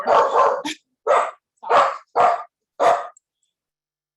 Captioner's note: dog barking loudly